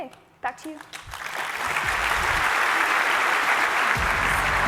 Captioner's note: applause